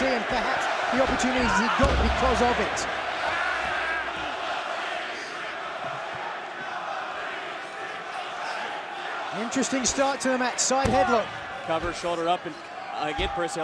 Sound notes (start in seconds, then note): 5.1 crowd cheering